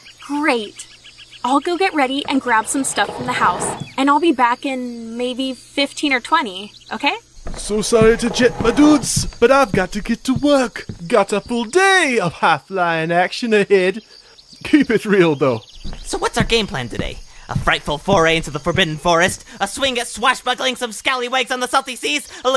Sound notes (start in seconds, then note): 7.4 chair scraping on floor